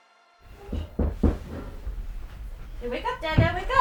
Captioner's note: knocking on door